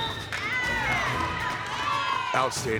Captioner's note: whistle blowing